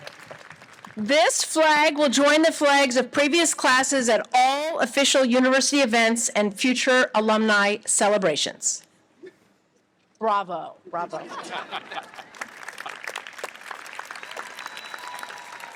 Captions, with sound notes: This flag will join the flags of previous classes at all official university events and future alumni celebrations. Bravo. Bravo. (laughter) (audience applauds)